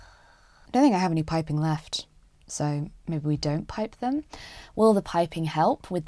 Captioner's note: sighs